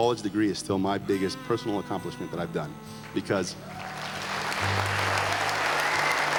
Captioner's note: applause